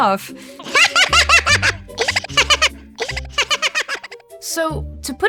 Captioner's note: MOOD laughs harder